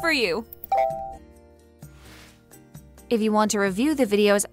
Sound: machine chimes

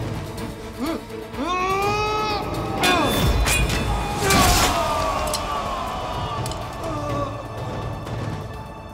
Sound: Müzik - Gerilim; Savaş sesleri

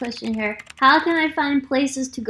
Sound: keyboard clicking

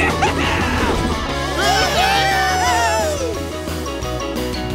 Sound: cheering

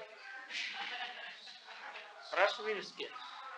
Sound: laughter

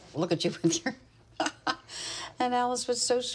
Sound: chuckling

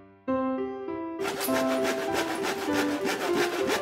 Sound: grinding on sandpaper

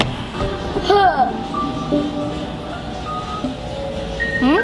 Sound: sighing

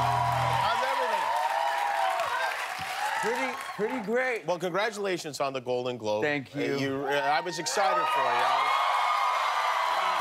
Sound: cheers and applause

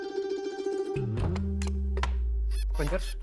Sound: door closes

